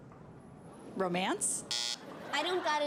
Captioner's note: buzzer